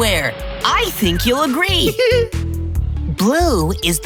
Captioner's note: giggling